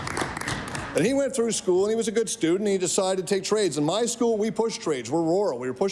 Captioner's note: applause